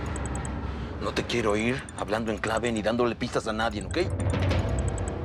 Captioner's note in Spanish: celular sonando